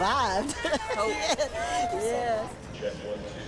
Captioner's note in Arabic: يضحك